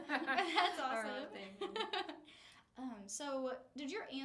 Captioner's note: laughs; laughing